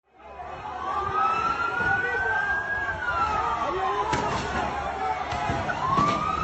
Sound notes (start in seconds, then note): 0.2 ambulance